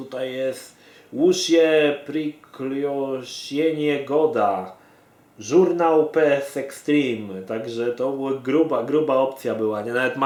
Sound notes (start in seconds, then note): 1.0 barely reads Russian